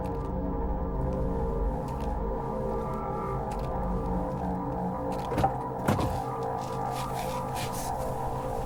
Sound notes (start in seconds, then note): 5.4 door clicks